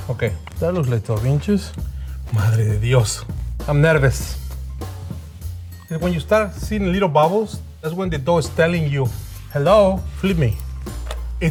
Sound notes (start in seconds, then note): 2.5 speaks in Spanish